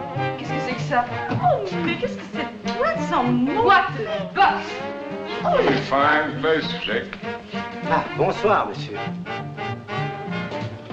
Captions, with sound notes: - [ French ] - [ French ] - What is that? - It's a pretty fine place,Jake. Ah. Bonsoir, monsieur.